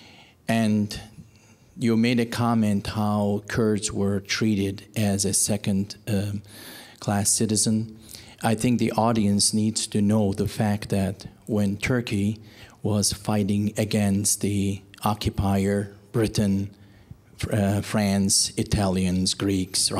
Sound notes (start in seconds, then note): none